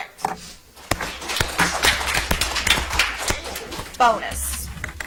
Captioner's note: audience applauds